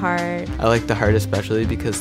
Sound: voiceover

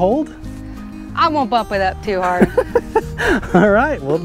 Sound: Jack laughs

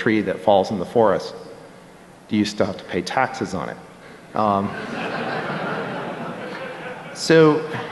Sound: laughter

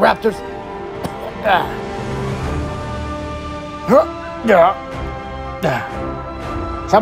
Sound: struggle Sounds

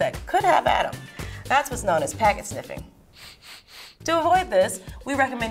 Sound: sniffing

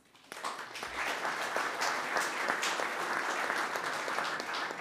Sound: audience clapping

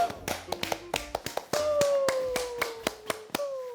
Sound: clap clap

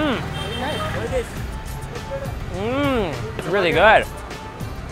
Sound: groans

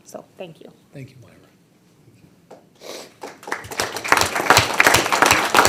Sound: audience applauding

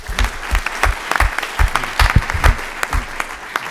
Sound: applause

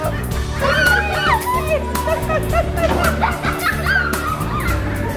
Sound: squeals and chatter

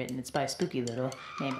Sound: woman screaming

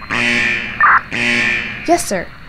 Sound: radio squelch

